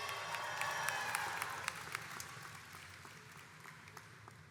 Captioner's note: crowd applauds and cheers